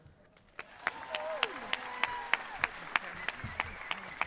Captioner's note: audience cheering